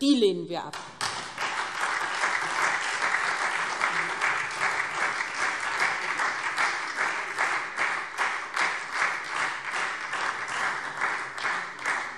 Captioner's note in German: Anhaltender Beifall SPD und Freie Demokraten